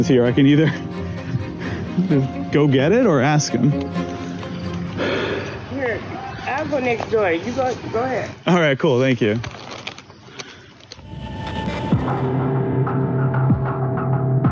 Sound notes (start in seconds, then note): 1.1 laughs; 4.9 sigh